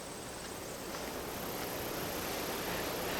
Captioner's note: hissing of crickets